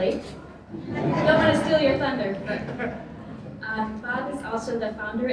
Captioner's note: laughter